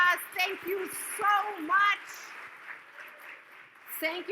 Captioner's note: audience claps